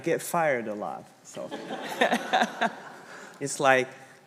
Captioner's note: congregation laughing; chuckling